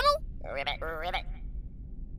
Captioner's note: frog